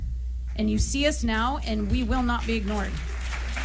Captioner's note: applause